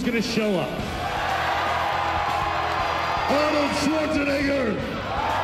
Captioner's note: cheers and applause